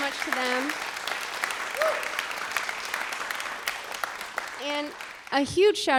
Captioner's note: applause